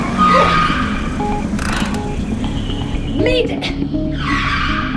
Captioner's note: tires squealing